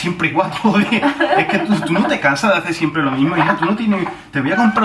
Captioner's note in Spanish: acento andalú